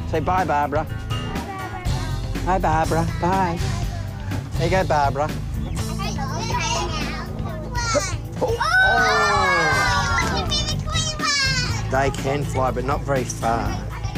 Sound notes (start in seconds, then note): 5.7 children talking in the background